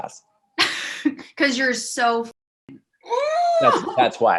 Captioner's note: laughs; grunts